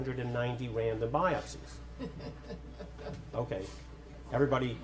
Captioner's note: audience laughs